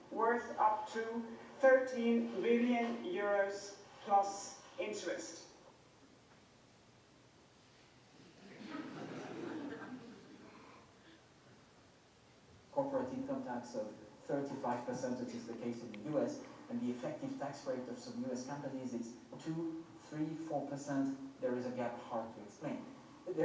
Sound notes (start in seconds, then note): 8.3 audience laughing